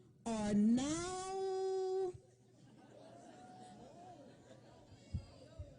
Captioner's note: laughter